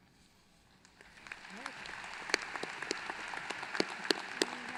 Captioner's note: applause